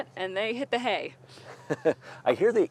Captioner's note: host laughs